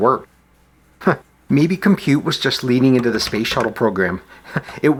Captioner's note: chuckle